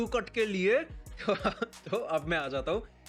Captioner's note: laugh